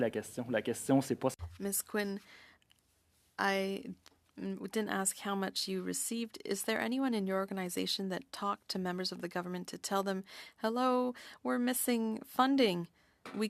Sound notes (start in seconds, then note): 6.0 speaking French